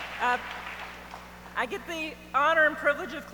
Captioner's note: audience applauds